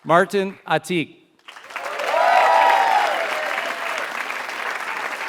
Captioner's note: applause